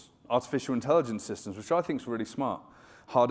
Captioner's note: none